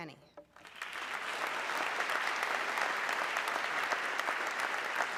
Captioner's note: audience clapping